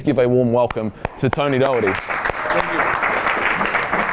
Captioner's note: clapping